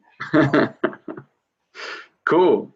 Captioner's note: laughing